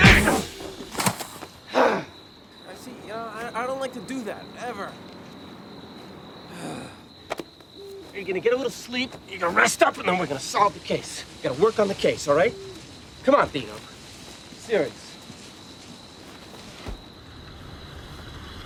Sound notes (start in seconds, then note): 2.8 exhales sharply; 6.5 sighs